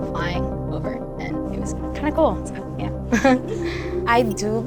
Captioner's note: laughs